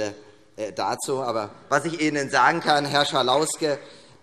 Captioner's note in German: Beifall